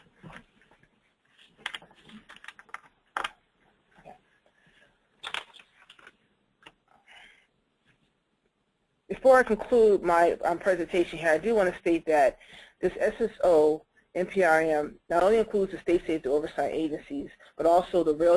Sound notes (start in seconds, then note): 4.1 pause